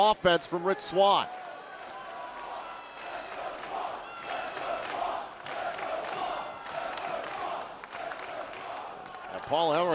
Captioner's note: crowd cheering